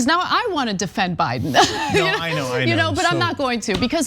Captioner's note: laugh